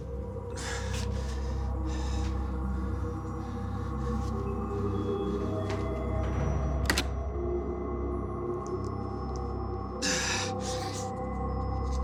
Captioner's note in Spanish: respiración agitada